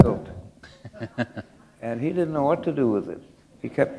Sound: chuckle

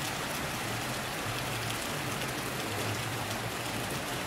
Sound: rain Sounds

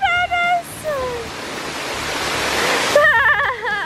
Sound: laughing

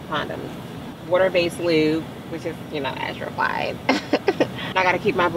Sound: laughs

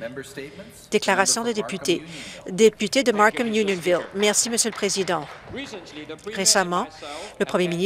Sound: applause

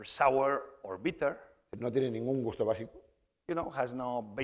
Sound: speaking spanish

